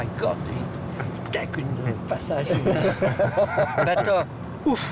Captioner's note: laughter